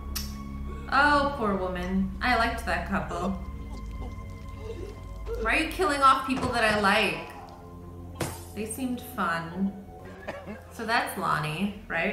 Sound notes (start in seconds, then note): 2.9 softly gurgling; 3.1 soft chilling music; 8.2 glass smashes